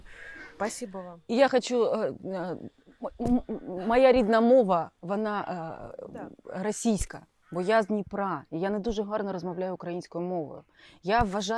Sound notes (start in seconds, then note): 1.8 switches into Ukrainian